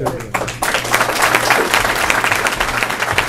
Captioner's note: applause